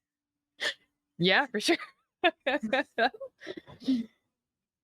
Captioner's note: laughs